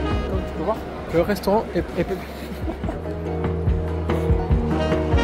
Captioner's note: laughing